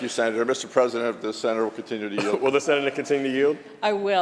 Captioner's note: laughter